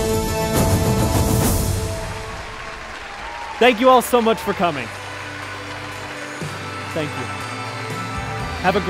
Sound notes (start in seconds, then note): 0.0 intense music plays; 2.0 applause